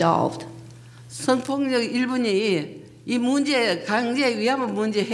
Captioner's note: speaking foreign language